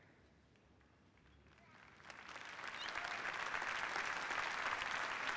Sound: applause

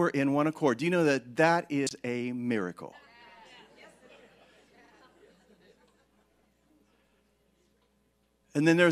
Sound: congregation agreeing

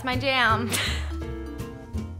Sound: laughs; upbeat music

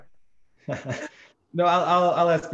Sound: chuckle

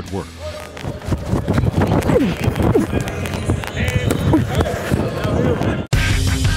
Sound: grunts

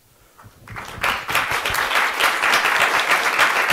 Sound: applause

